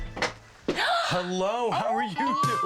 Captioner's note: gasps